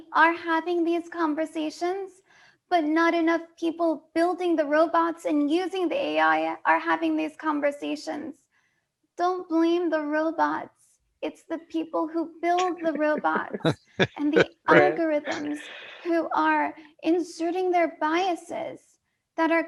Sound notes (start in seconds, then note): 12.6 laughter